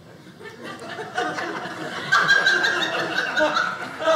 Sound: audience laughing

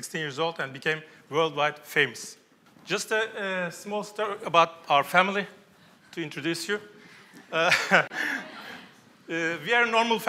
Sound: laughs

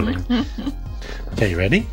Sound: laughing

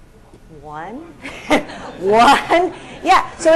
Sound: laughter

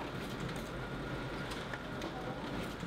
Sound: print machine whirring

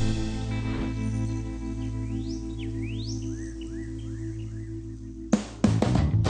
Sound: birds chirping

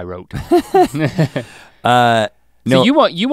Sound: both chuckle

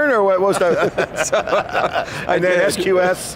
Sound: laughs

